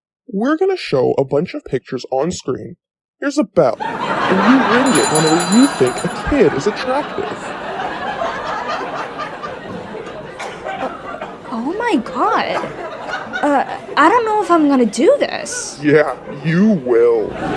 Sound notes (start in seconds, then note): 3.7 audience roars and guffaws; 4.6 rings bell to demonstrate; 7.9 audience continues cackling